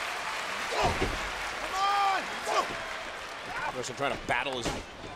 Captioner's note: applause